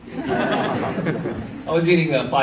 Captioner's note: audience laughs